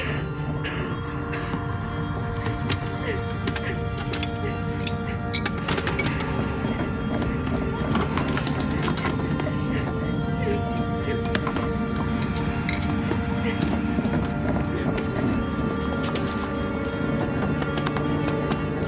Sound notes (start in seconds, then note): 2.5 suspenseful music; 10.6 scratching; 15.6 suspenseful music